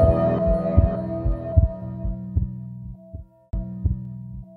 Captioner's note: digital tone; heart beating